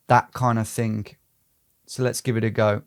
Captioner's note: none